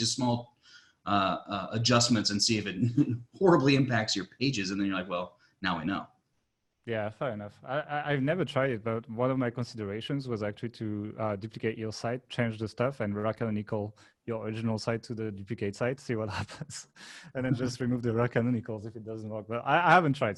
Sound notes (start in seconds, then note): 2.8 laughs; 13.7 murmurs; 16.2 laughing